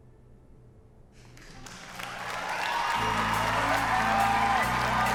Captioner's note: applause